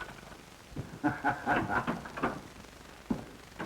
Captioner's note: laugh